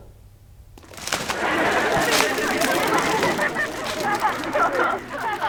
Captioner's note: audience laughing